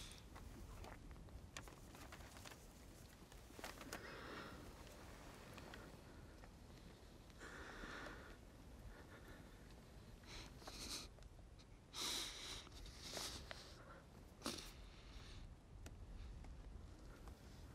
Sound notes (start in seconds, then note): 10.2 breathing shakily